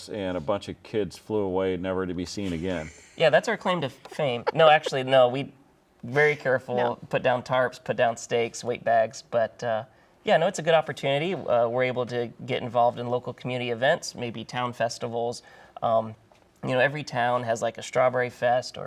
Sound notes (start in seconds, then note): 3.9 laughing